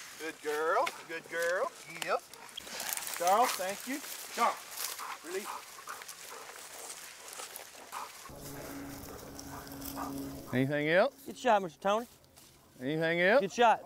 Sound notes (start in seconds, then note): 5.8 dogs panting